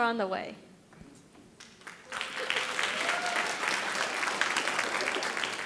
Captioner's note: audience applauding